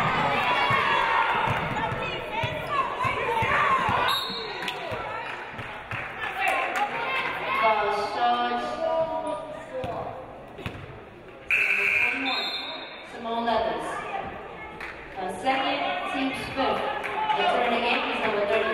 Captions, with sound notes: (referee blows whistle) Foul Sharks. (game buzzer buzzes) Simone Leathers. Second, teams fifth.